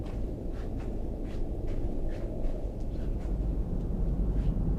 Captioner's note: footsteps rustling